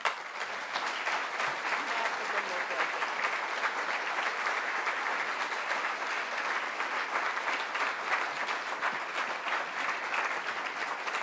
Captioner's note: applause